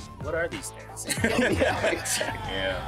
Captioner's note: laughter